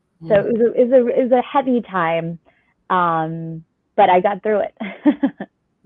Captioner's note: laughter